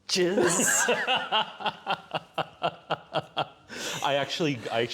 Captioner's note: laughter